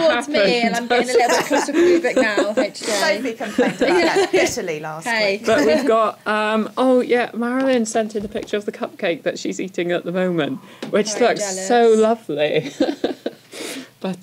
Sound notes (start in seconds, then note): 5.5 laughs